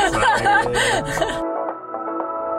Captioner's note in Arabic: يضحك; موسيقى مبهجة